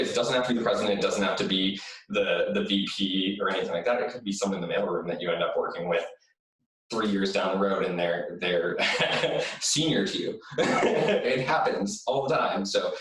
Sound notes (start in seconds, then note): 8.5 laughs